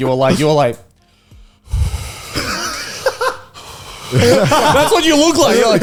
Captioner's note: exhales